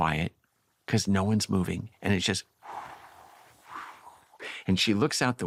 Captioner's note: mimics wind